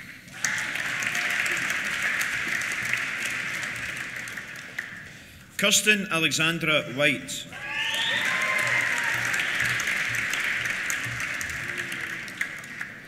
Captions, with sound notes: (CHEERS) (APPLAUSE) Kirsten Alexandra White. (CHEERS AND WHISTLING) (APPLAUSE)